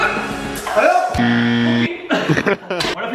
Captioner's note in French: bruit d'un buzz; rire